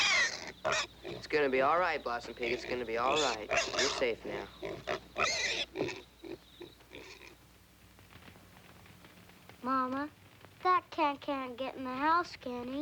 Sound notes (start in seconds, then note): 2.2 squealing